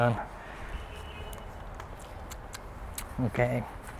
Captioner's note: smacks lips